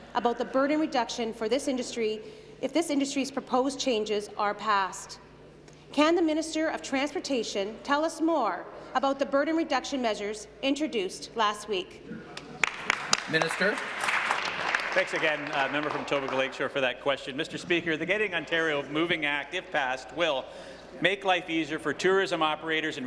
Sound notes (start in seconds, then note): 14.8 applause